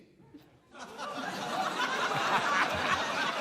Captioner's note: laughter